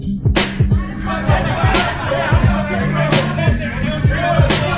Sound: laughing and joking

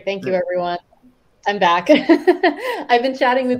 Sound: laughs

